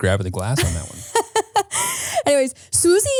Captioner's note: laughing